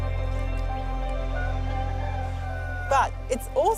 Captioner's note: rooster crows